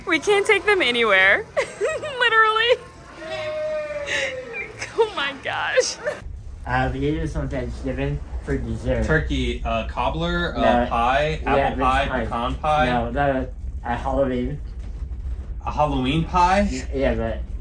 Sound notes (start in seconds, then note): 3.1 laugh